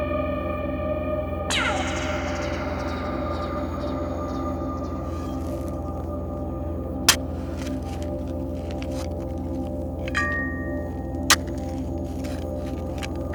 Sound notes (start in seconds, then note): 7.0 shovel scraping; 8.9 eerie music continues